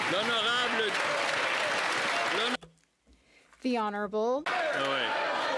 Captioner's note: applause